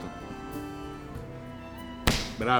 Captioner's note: slap on neck